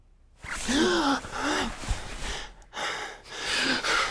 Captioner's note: Nick gasping